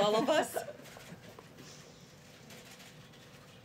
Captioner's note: laughter